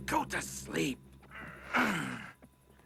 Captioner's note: grunting